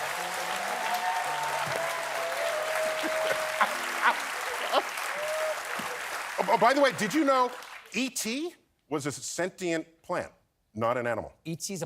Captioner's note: applause